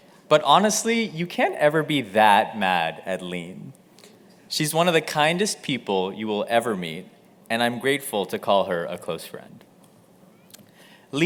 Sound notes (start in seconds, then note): none